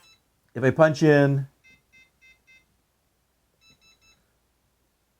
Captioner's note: keypad tone